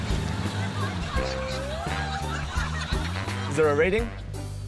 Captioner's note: laughter